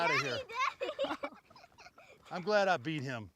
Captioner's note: giggles